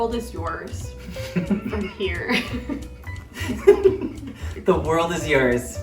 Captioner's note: laughing